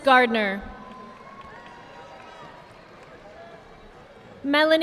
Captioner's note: audience applauding